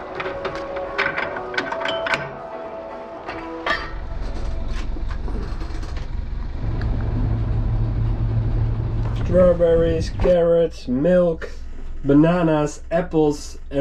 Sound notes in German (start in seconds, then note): 0.1 Metallklirren; 6.9 Bootsmotor dreht auf